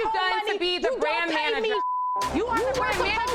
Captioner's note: beep